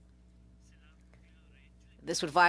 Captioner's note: speaking French